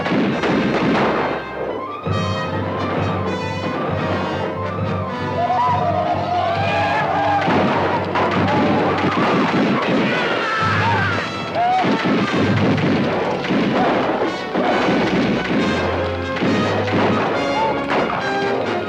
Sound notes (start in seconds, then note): 0.0 guns fire; 5.5 Apaches howl; 7.5 guns fire